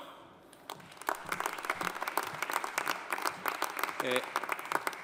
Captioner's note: audience applauding